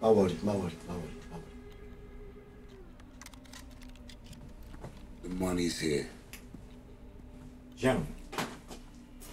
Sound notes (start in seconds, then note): 2.9 gun clicking